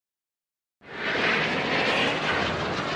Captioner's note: whoosh